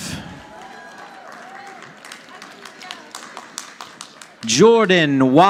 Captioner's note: audience applauding